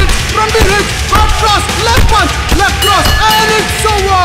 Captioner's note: Bell rings